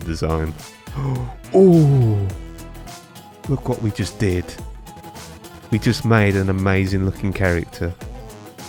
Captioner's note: inhale